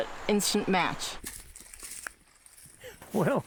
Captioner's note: crunching footsteps